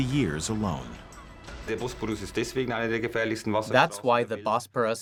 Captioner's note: man speaking German